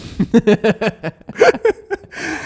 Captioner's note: both laughing